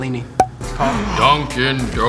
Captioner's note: gasps